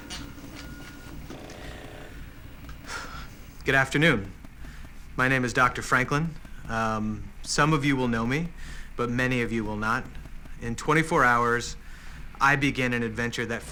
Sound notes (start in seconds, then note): 2.7 sighs